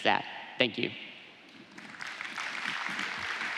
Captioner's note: applause